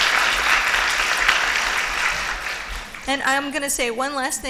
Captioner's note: applause